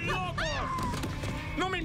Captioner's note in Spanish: grita